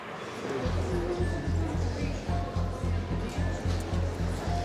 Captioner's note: people talking in background